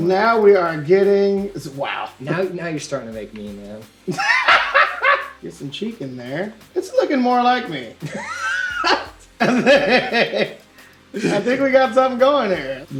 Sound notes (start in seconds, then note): 4.1 laughs; 9.4 laughs